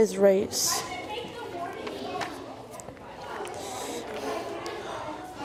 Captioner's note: students chattering